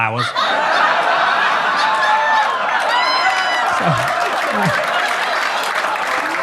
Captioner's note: audience laughs; audience claps